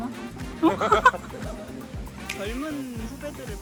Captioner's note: she laughs a little herself